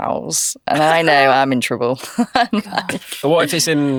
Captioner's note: laughs